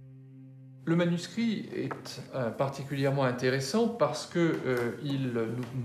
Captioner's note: speaking in a foreign language